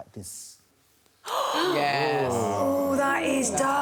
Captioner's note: all gasp